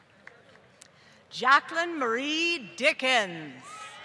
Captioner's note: applause